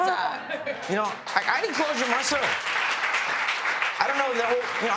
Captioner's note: applause